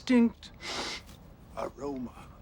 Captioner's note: sniff